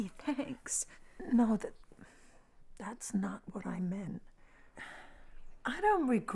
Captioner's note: sighs